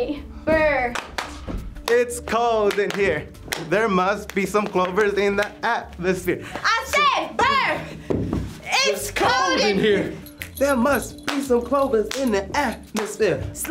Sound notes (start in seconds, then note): 0.9 claps; 8.0 stomps